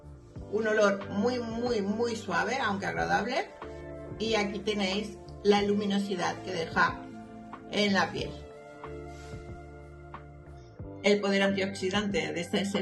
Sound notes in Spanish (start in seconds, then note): none